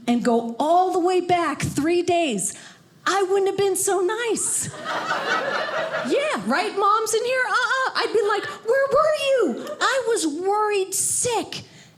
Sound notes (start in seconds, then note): 4.7 audience laughing